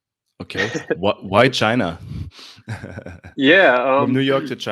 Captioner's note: laughs